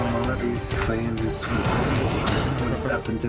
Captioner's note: zzzsshHHHFFF